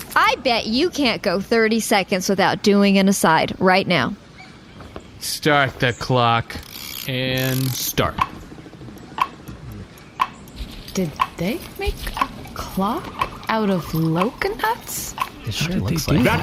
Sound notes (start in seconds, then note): 10.0 quietly